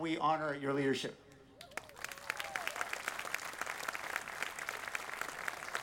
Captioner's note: audience applauding